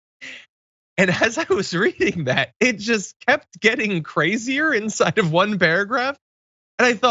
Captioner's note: laugh